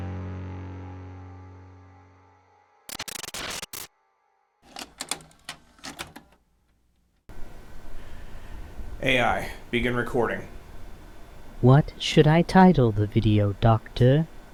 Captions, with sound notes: [glitch sound effects] [clicking] - AI, begin recording. - What should I title the video, Doctor?